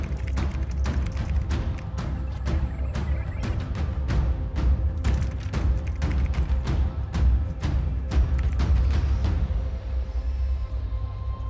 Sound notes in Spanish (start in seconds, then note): 0.0 Tecleo; 5.0 Tecleo